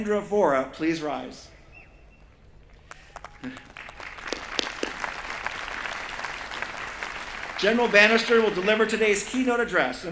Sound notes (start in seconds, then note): 2.8 applause